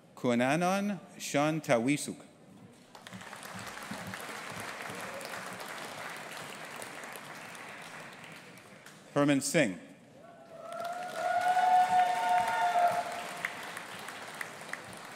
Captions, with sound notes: Khunanon Seantaweesuk. (AUDIENCE APPLAUDING) Hermann Singh. (AUDIENCE APPLAUDING AND CHEERING)